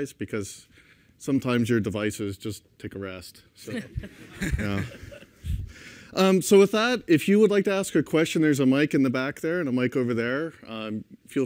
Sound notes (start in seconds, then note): 3.7 laughter